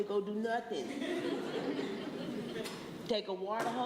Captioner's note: laughter